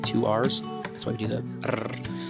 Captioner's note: rolls tongue